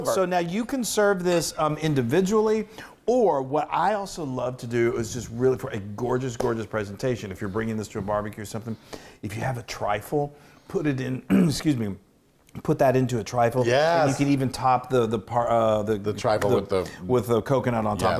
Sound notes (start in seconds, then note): 11.2 cough